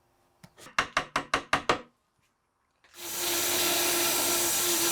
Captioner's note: hammer tapping; saw buzzing